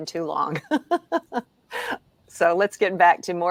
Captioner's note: laughs